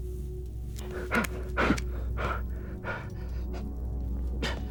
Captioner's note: Gerry panting